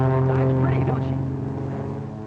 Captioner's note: whirring